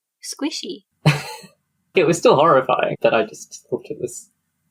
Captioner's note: laughs